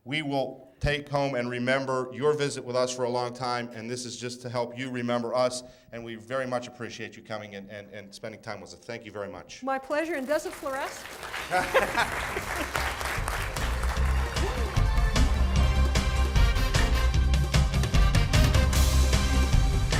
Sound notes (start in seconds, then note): 11.4 laughter; 12.6 applause; 15.0 closing music